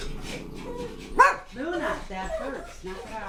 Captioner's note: dog growling